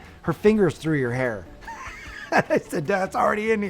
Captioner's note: laughs